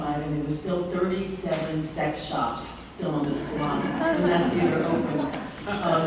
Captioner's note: laughter